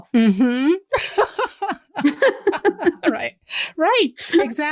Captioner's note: laughter